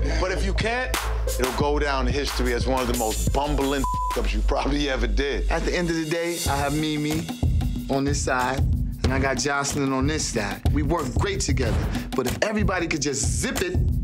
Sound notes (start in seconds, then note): 0.0 both laughing; 3.8 beep